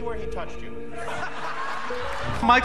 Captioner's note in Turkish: gülüşmeler